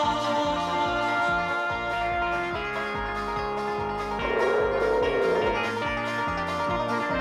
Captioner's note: upbeat banjo music; dinosaur roaring